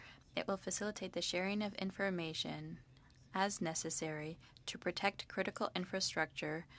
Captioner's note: speaking French